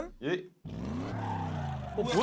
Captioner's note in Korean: 부릉 부릉